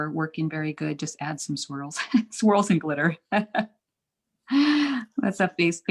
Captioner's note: chuckles